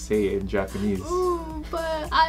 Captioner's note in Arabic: بكاء